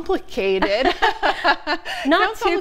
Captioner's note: laughing